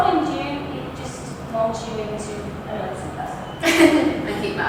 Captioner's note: laughs